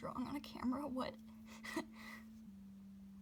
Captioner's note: laughs